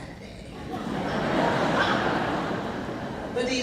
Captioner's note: laughing